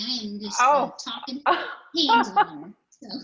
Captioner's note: laughs